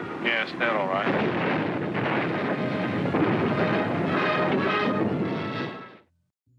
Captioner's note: explosions